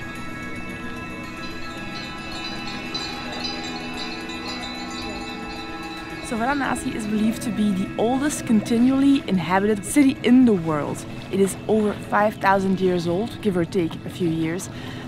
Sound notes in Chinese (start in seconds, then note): 2.6 铃铛声